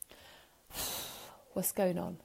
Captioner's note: breathing